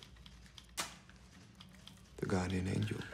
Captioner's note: match strikes